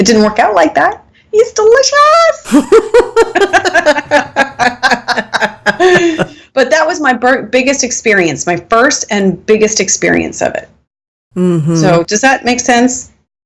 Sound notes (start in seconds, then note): 5.5 laughing